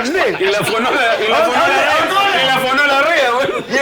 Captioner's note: laughs